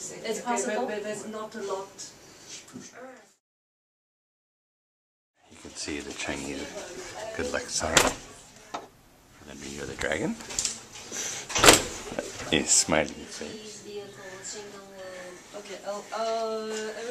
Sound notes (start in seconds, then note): 10.4 cracks